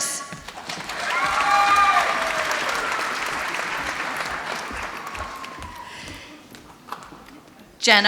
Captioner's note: applause